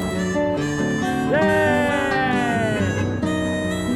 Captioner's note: car honks